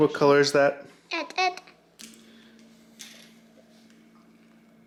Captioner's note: baby mumbling